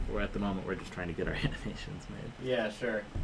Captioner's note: laughs